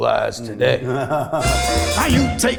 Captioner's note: laughs